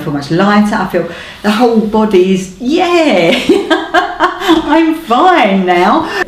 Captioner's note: laughs